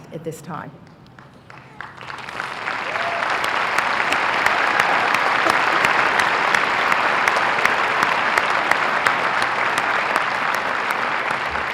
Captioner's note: applause